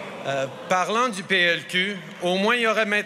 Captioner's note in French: Murmures